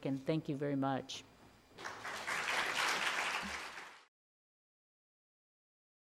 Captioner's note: audience applauding